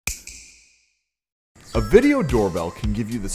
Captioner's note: snap